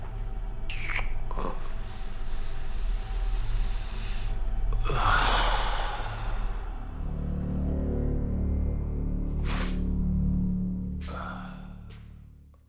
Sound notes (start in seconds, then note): 5.1 Danny sighs; 7.3 light dramatic music